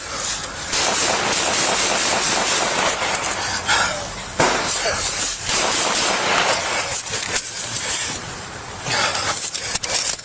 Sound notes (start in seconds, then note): 0.7 fires gun; 4.4 gun shot fired